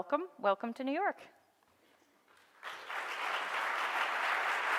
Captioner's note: audience applauds